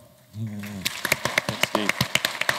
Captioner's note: applause